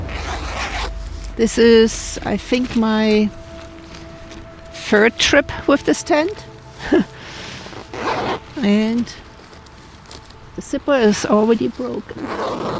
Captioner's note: laughs